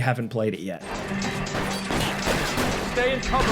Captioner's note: gunshots boom